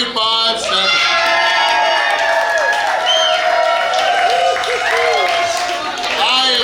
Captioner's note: cheering & Clapping